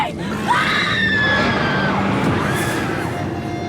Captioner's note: screams; growls